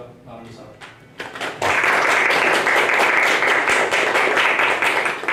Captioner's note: applause